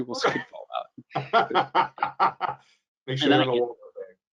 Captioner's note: laughs